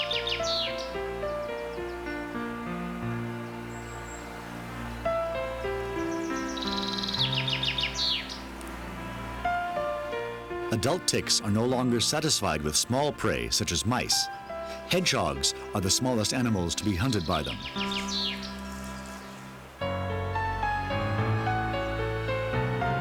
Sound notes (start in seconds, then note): 3.8 birds chirping